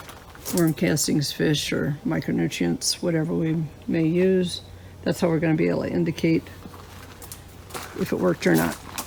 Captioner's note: walking sounds on gravel